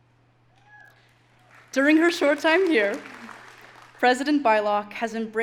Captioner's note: audience applauding